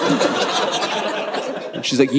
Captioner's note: audience laughing